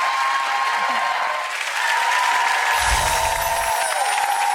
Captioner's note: audience cheering